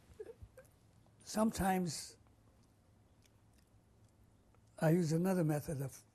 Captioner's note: pauses for 3 seconds